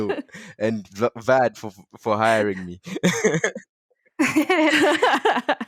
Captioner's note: laughing